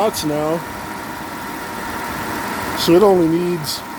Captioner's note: engine idling